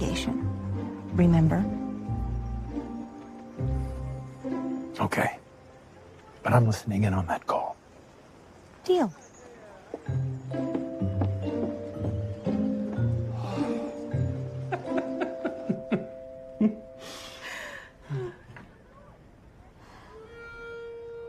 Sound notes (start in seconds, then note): 13.4 exasperated sigh; 18.2 both laughing